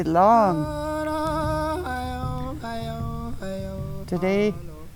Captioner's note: people chanting